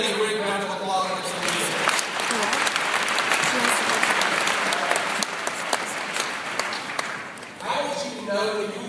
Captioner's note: applause